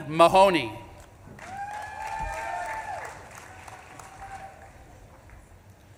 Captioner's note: audience claps and cheers